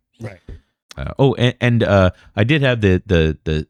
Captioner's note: uh